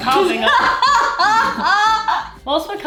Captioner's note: laughing